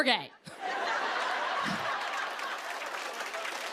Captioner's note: cheers and applause